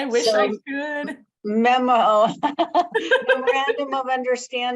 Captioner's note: laughing